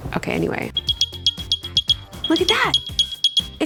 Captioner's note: upbeat electronic music; Airpods chime